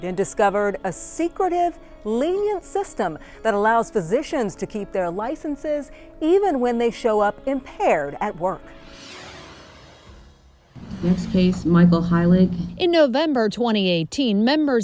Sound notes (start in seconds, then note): 8.8 logo swooshes